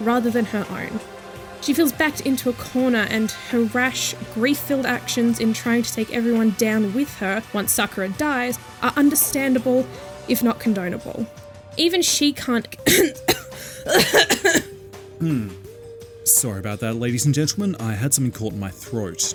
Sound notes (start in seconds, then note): 12.8 coughing; 15.1 gulp